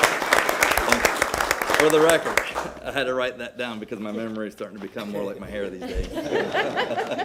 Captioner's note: applause